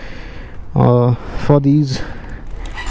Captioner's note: brakes